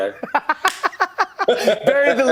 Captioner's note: laughs